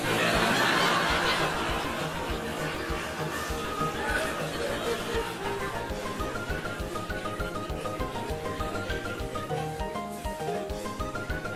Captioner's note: laughter